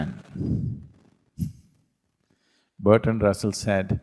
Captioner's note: laughs